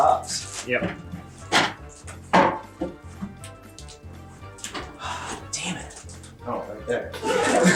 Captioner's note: audience laughter